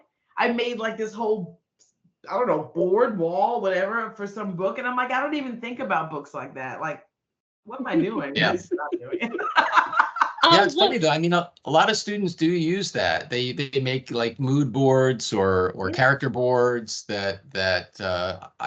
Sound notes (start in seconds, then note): 7.8 laughing